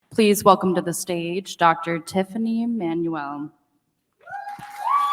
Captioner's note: applause